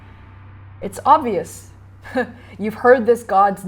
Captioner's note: chuckling